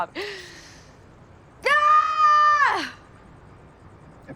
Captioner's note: longer yell